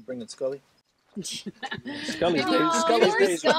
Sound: all laughing

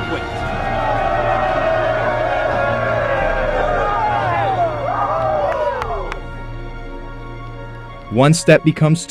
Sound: crowd Noise

